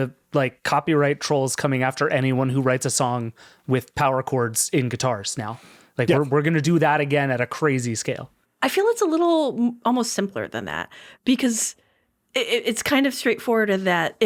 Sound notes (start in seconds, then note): none